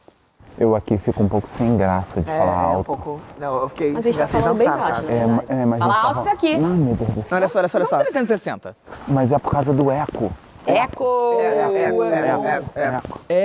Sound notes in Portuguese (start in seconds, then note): 6.0 falando alto; 12.5 cantando